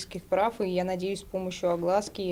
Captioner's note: speaking native language